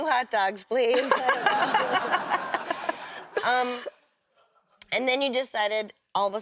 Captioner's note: laughs